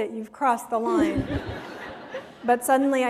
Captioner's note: laughter